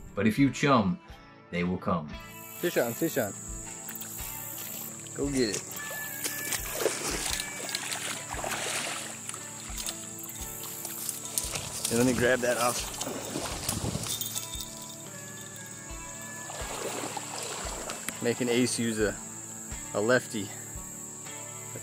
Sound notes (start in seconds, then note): 6.0 splashing water; 7.8 bite alarm jingling